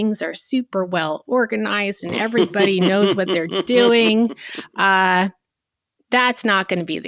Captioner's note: chuckling